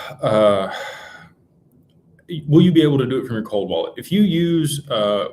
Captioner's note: sighs and gasps